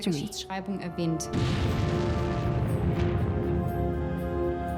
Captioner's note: blasting sound